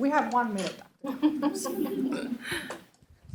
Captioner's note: laughter